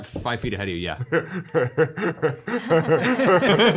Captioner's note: laughs